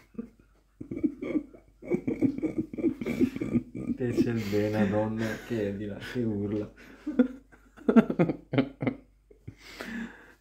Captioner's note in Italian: Risate